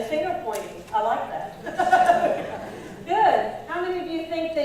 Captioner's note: laughs